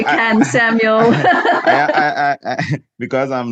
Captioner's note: laughs loudly